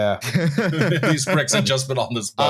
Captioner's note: laughs